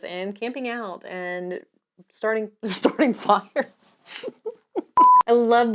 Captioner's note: laughs